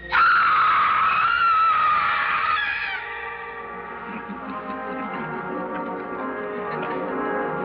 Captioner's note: scream